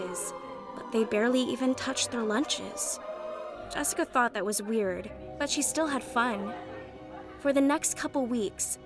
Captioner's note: none